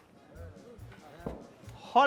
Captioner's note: Zeke stomping